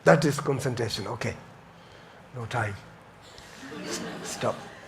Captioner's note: audience laughs